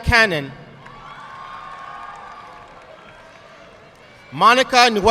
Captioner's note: audience clapping